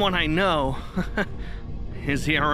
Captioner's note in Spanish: Risas